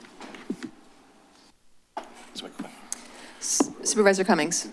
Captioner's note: shuffling